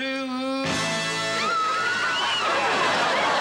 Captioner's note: cheering